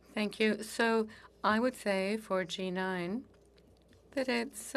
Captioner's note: speaking French